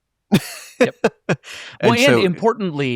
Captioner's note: laughing